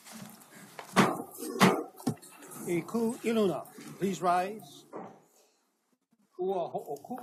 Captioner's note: gavel bangs twice